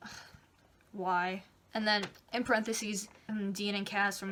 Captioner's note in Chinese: 叹气